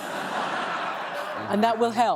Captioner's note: laughter